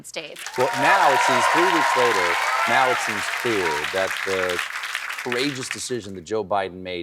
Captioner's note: applause